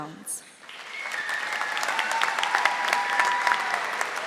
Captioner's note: audience applauding